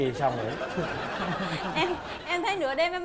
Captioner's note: laughing